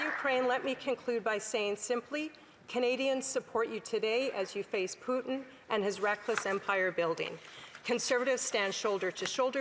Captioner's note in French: applaudissements